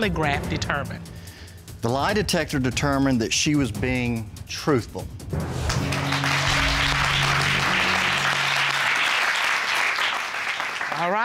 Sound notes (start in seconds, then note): 5.6 applause